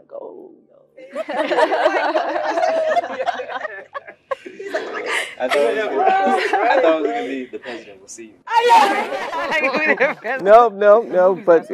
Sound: laugh

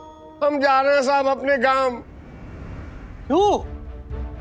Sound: none

